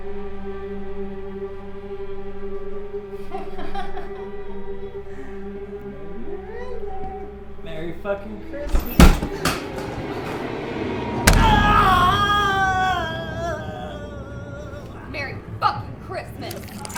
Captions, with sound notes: (intruder laughing) I know you're in there. Merry fucking Christmas. (dramatic music) (intruder screaming) - Merry fucking Christmas!